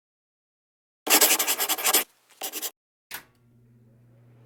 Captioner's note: pen scribbling